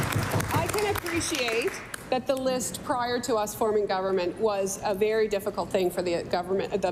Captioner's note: cheering and Applause